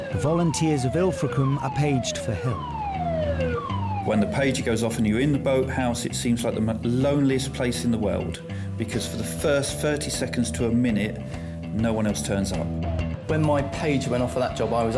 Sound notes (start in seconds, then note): 3.0 siren blaring